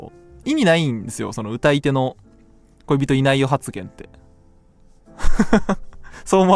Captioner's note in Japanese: 笑い